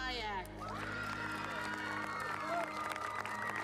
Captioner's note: cheering